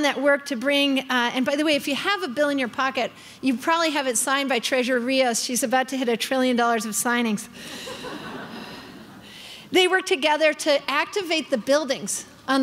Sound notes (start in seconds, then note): 7.7 crowd laughing